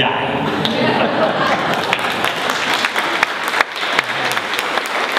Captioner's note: audience applauding